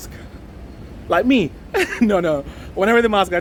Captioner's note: laughs